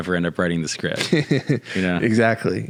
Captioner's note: laughing